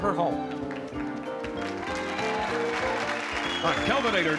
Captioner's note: applause